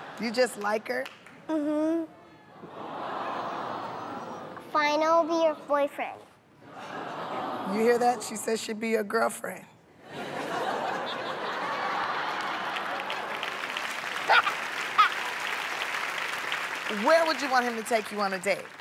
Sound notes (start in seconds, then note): 3.1 audience "Aww"s; 6.6 laughter; 10.0 laughter; 13.3 applause; 14.1 laughs